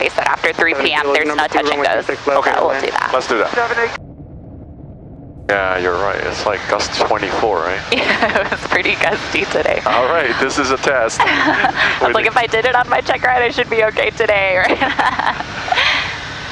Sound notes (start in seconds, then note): 4.0 plane engine whirring; 7.9 laughing; 14.8 chuckling